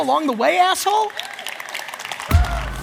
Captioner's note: audience cheers; electronic music